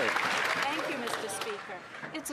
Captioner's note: some Applause